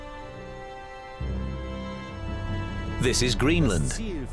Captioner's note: man speaking German